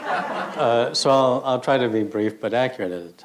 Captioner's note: audience laughter